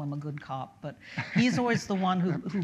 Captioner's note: laughs